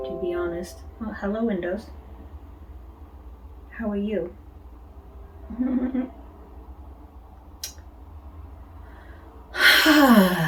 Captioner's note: Windows' warning sound; giggles